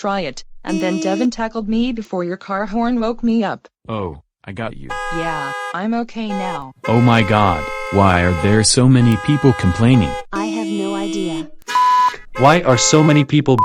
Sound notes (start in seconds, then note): 0.6 car horn honking; 6.1 car horns honking